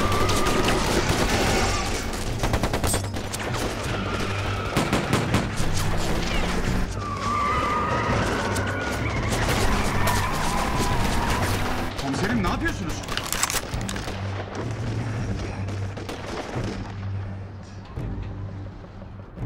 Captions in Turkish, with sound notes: (Silah sesleri) Komiserim, ne yapıyorsunuz? (Mermi sürme sesi)